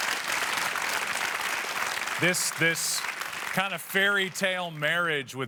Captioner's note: applause